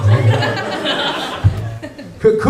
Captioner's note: laughter